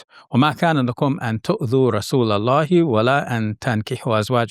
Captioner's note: speaking Arabic